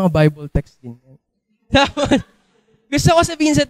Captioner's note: laughter